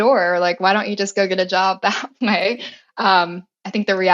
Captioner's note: laugh